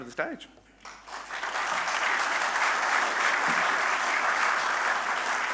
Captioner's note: audience applauding